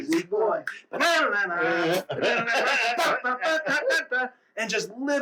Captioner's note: vocalizing